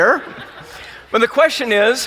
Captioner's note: laughing